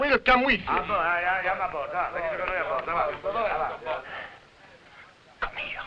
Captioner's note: officers conversing in foreign language